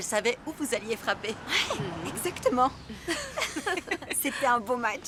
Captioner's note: laughing